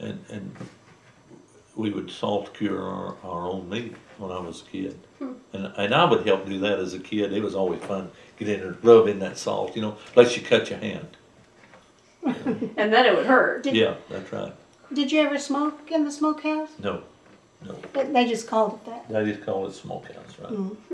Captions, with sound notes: and we would salt cure our own meat when I was a kid. I would help do that as a kid. It was always fun, get in there and rub in that salt, unless you cut your hand. (Laughter) And then it would hurt. Yes, that’s right. Did you ever smoke in the smokehouse? No, no. They just called it that? They just called it smokehouse, right.